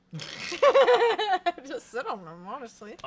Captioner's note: laughs